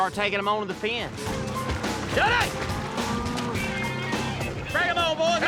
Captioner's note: splashing